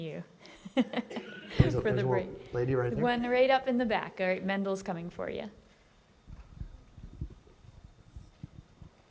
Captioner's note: laughing